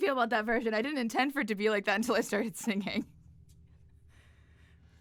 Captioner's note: laughter